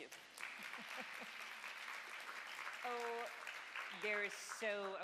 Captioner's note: audience applauds